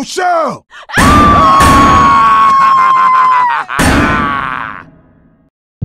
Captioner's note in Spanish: Coach se ríe; Rochelle grita